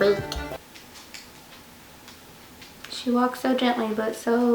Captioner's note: Saya's nails clicking on floor